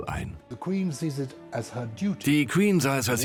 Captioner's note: voiceover